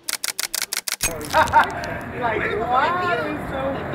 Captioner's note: camera clicking; chatter